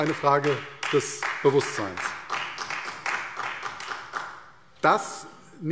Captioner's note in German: Beifall CDU